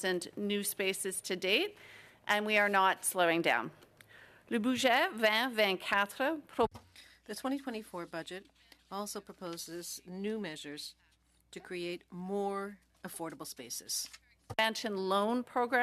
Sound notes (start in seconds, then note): 9.2 speaking French